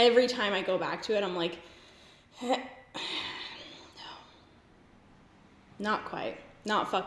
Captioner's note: sighs